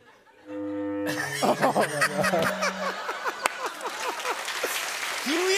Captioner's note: cheers and applause